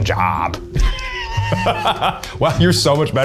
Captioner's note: laughs